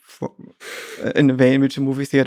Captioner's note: Lex chuckles